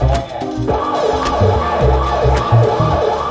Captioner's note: police siren